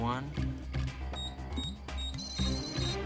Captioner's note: beeping